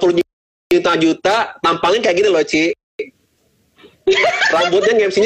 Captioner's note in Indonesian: Tertawa